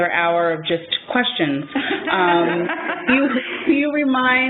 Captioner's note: laughter